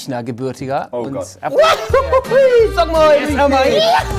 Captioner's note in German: Sie jauchzen